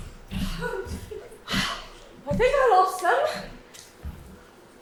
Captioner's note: out of breath